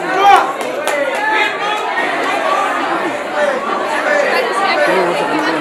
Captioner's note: people chattering